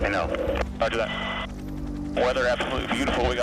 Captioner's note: man Over Radio